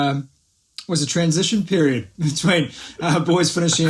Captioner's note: laughs